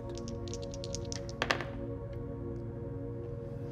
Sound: dice rattles

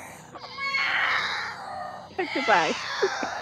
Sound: yowling

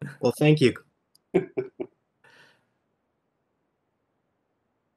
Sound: laughs

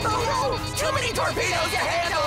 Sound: alarm blares

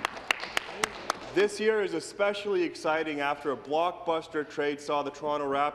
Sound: some Applause

